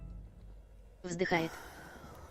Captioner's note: exhales